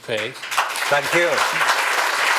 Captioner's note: applause